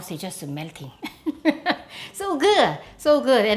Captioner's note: laughs